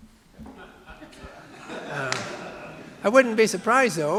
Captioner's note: audience laughing